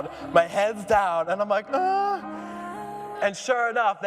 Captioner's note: whimpers